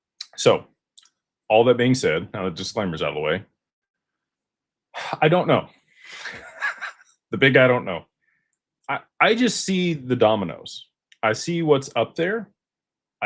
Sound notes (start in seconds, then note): 6.1 laughter